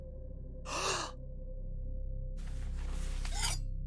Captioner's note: gasping